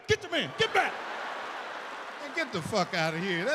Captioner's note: audience laughs